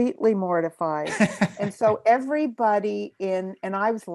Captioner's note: laughs